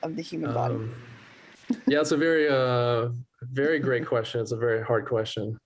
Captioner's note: laughter